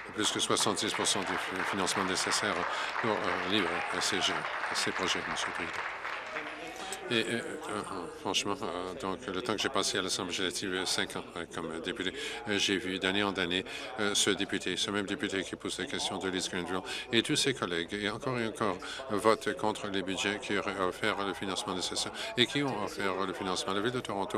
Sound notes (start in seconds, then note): 4.4 applause